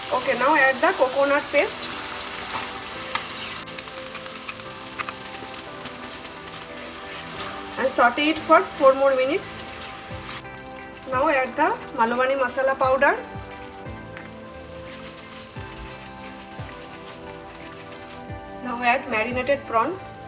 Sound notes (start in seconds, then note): 14.7 wooden spoon scraping pan